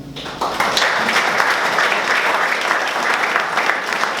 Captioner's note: applause